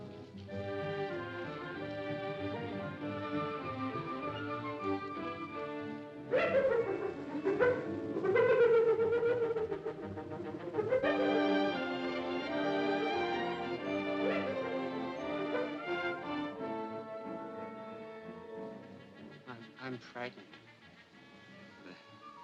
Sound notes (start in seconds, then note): 0.3 ominous music; 6.3 hyena laughs; 11.0 ominous music